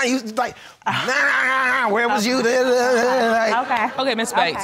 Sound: imitating nagging

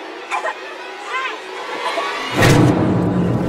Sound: continues Choking

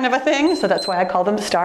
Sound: timer beeps

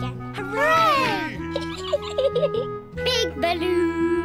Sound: peppa pig giggles

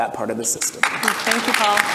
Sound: audience applause

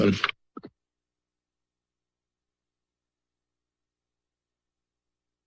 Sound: silence

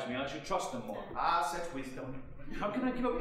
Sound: audience chuckling

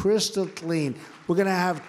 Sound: applause

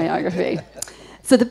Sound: audience laughing

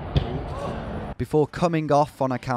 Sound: ball smacking

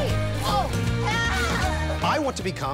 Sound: screams

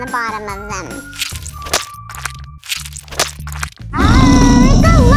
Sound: peanut butter squelching; lion roaring

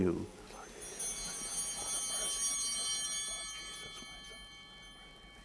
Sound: bell ringing

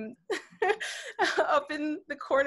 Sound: laughing

